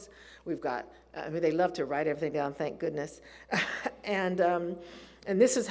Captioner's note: laughs